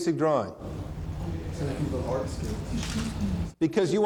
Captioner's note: speaking off microphone